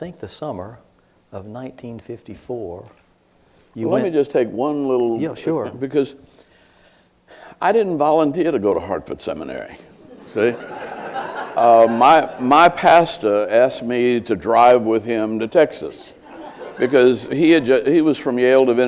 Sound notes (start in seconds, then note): 10.0 laughter